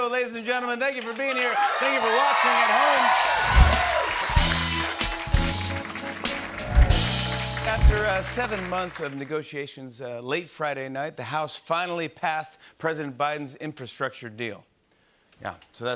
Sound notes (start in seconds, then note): 2.9 cheers and applause